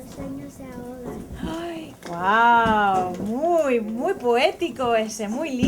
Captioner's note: gasps